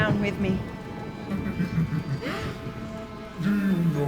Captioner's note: Dracula laughs